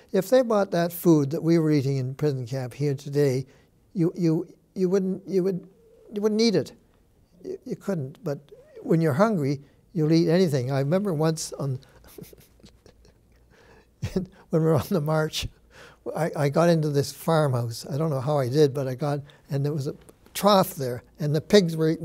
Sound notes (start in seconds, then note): 12.0 chuckles